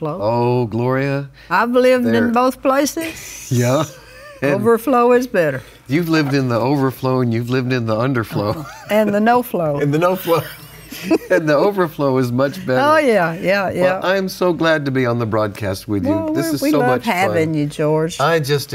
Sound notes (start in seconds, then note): 9.6 laughs